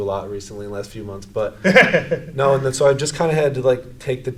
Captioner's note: laughs